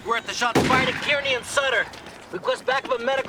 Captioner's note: gunshot